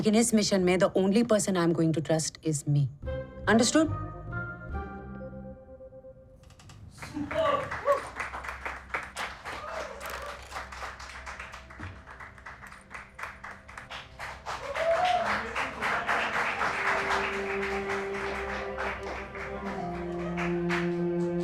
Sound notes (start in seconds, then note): 8.3 applauses; 14.6 applauses; 14.6 mouthing